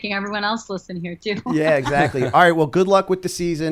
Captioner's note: laughter